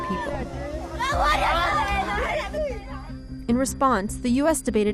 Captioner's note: screaming